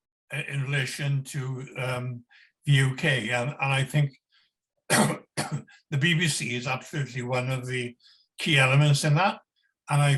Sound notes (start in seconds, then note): 4.9 coughs